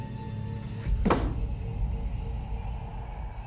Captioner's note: book banging; dramatic music